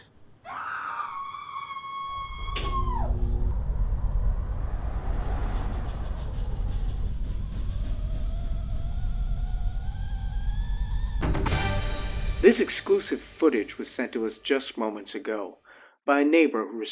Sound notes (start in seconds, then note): 0.3 screaming; 8.3 tea kettle whistling; 11.2 suspenseful music